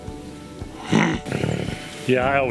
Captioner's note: grunts; bison grunts